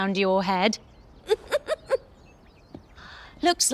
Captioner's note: Sunny chuckles